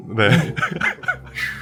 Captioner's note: laughs